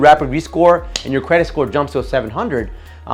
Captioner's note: hands tapping